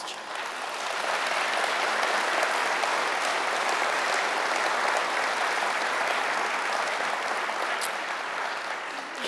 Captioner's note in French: Applaudissements